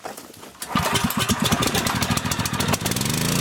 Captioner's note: engine starts